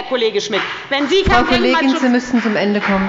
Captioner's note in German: Beifall bei der FDP